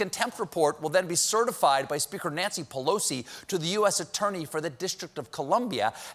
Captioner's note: none